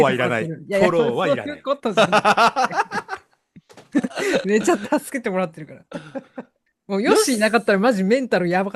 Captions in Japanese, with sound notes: [笑い] めちゃ助けてもらってるからもうよしなかったらマジメンタルやばかったから。治療。